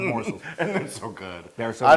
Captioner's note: laugh